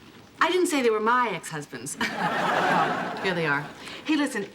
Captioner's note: laughing